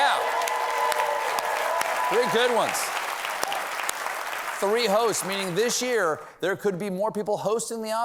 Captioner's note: applause